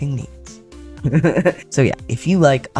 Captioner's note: laughter